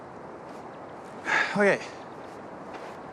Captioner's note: sighs